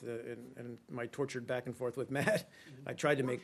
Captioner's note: laughter